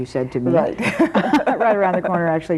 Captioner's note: both chuckling